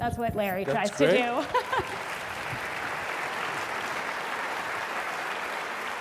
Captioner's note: applause